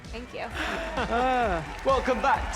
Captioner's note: both chuckles